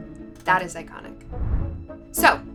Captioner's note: air whooshes